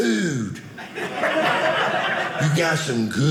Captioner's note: audience laughing